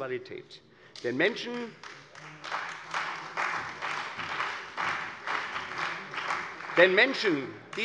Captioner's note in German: Beifall bei der CDU und dem BÜNDNIS 90/DIE GRÜNEN